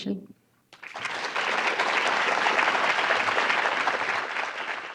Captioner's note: applause